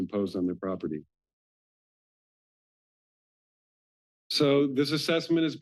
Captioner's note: pause